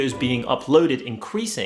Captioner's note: none